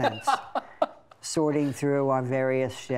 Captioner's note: laughing